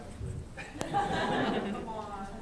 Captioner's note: laughter